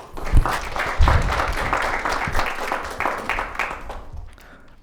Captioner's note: audience applauding